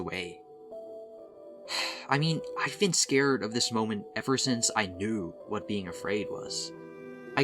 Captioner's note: sigh